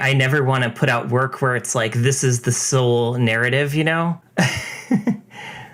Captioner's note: laughs